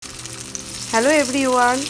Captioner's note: batter frying